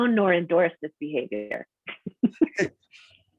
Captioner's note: laughter